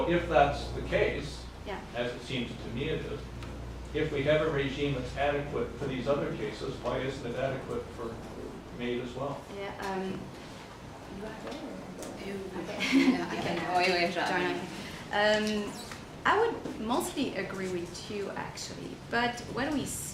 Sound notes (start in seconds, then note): 14.3 women speak in foreign language together